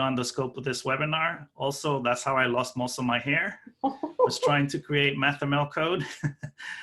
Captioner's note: laughing